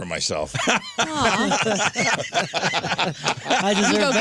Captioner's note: laughing